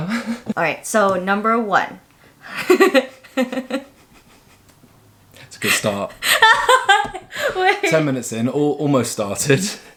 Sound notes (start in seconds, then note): 3.0 laughs; 6.2 laughs